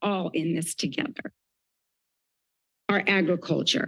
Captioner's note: pause